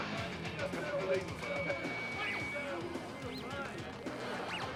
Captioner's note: talking